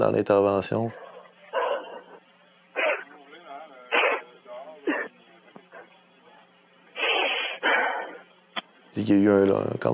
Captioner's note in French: respiration bruyante et sanglots